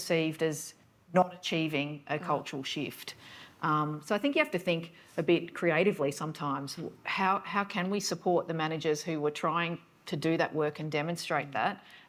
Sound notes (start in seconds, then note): none